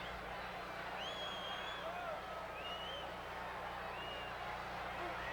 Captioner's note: crowd whistling